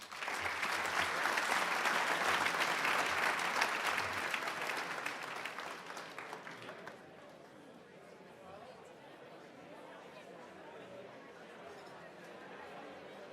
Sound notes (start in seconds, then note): 0.0 crowd applauding; 7.0 crowd speaking quietly